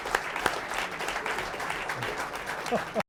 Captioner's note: applause